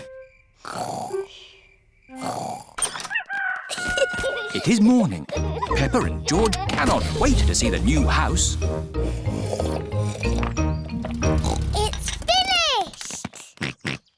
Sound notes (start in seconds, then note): 0.1 both snoring; 3.1 rooster crowing; 8.9 slurping; 9.0 oinks; 12.9 george oinks